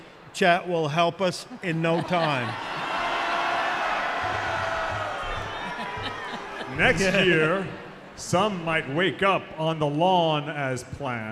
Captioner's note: laughter